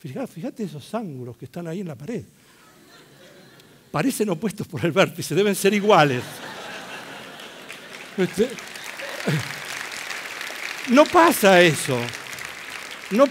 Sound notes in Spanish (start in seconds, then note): 2.8 risas; 7.7 risas y aplausos